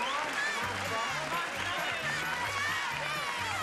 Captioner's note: applause